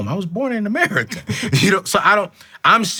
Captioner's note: chuckles